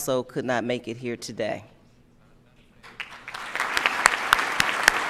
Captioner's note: applause